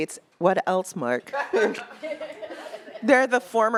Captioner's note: attendees laughing